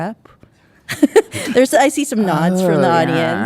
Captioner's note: laughs